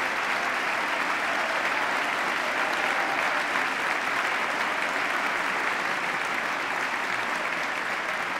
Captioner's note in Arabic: تصفيق